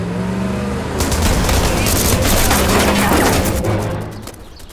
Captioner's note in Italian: Ancora più spari